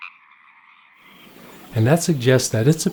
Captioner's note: birds chirp